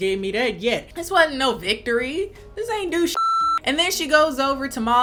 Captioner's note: beep